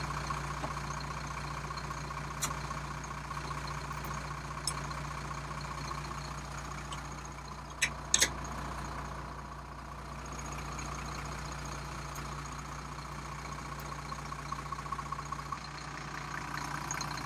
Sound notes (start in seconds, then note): 8.1 parts clicking together